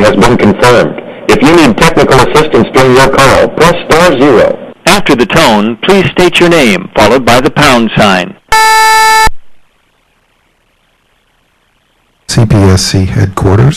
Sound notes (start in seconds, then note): 8.5 beep